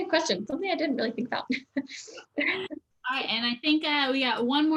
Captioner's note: chuckles